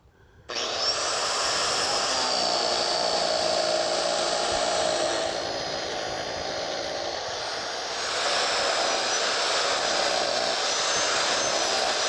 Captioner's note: cutter whirring